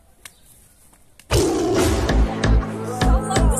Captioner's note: roaring sound